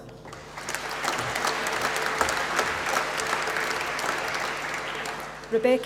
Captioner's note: applause